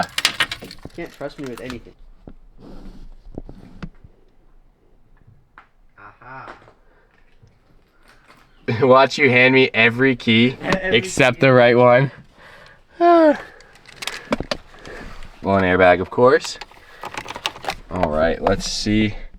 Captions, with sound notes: You can't trust me with anything. Watch you hand me every key except the right one. (sighs) One airbag of course. All right, let's see.